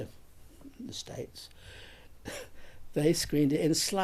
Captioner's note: chuckles